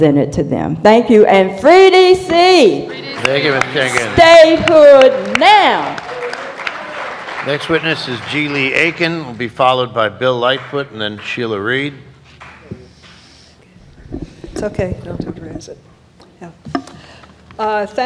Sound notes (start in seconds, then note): 3.2 applause